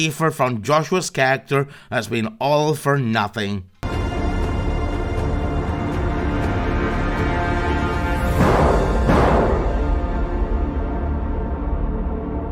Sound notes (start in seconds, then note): 4.2 the crappiest gunshots SFX ever